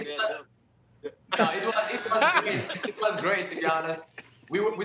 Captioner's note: laughter